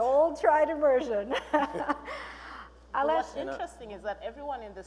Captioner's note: laughing